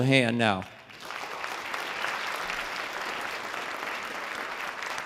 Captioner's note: audience applause